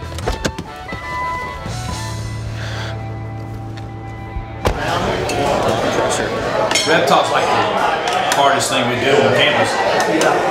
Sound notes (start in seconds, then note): 1.1 door opening; 4.6 door closing; 5.7 crowd noise